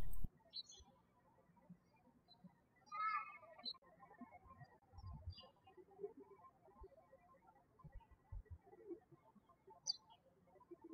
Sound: birds chirping

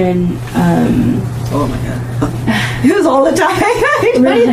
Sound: laughing

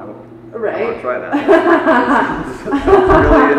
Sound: laughing

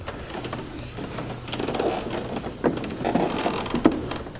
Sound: stairs creaking

